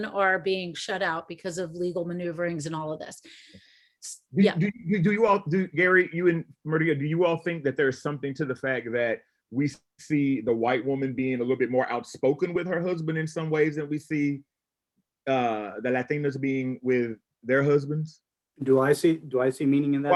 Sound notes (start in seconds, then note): none